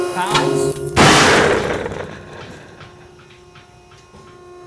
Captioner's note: sling pops